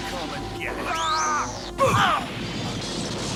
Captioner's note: yells; gunshot